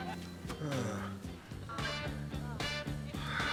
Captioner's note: sighs